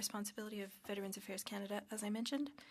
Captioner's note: speaking French